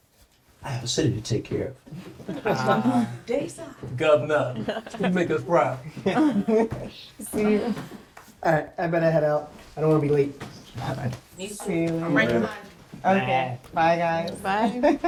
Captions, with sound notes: I have a city to take care of. (friends laughing, murmuring) - Governor, go make us proud. - See ya. - All right, I better head out. I don't wanna be late. - Me, too. - All right, bye. - Okay. Bye, guys. - Bye.